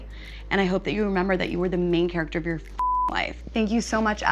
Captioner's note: beep